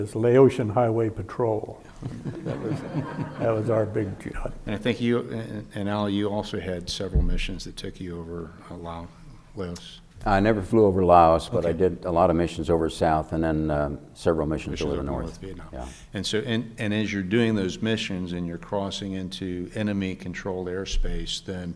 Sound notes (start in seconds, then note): 1.9 audience chuckling